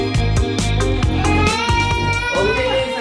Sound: crying

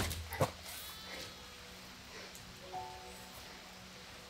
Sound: sheep, rain

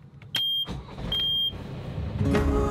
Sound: boat beeping

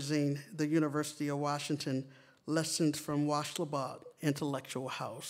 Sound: non-english

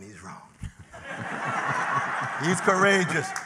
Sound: laughter

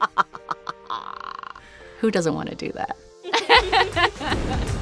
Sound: laughs evilly; laughs

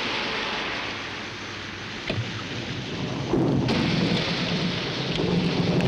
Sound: thunder

